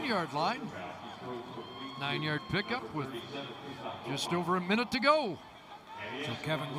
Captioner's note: whistle